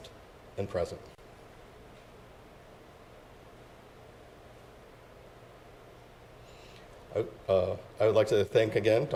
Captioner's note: silence